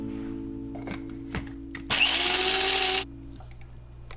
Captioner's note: high pitched grinding sound